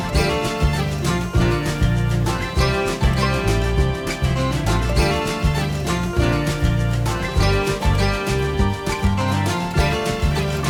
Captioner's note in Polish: Aplauz